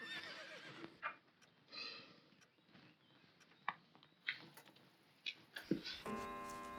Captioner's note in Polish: tykanie starego zegara, w oddali rżenie koni